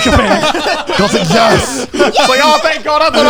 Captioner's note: everyone laughing